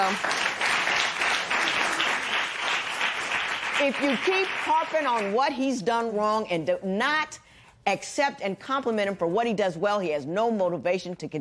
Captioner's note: applause